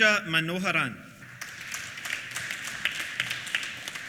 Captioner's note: applause